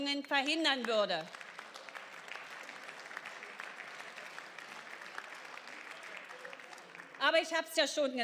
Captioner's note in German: Beifall